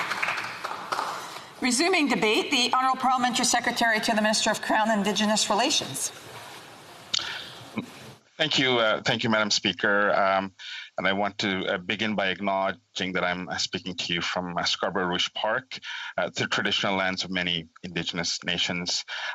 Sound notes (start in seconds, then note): 1.5 applause